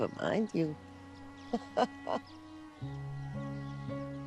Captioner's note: chuckles